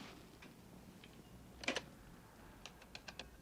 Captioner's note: buttons click